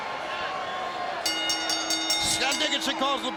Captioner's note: bell dings